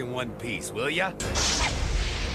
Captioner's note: crashing